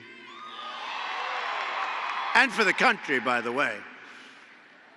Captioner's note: applause